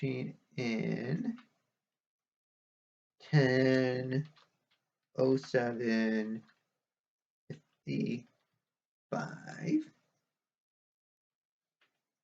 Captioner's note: tapping of keyboard